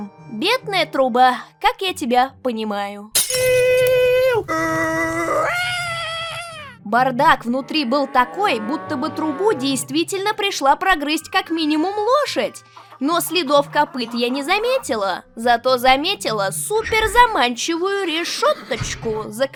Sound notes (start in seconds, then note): 3.1 sounds from hell